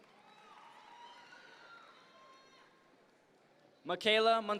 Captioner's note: audience members cheer